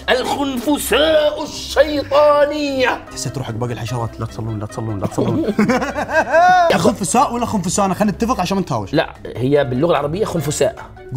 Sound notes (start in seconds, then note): 5.0 laughs